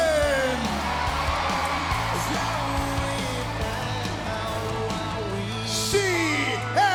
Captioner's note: crowd cheering